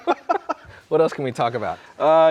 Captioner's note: both laughing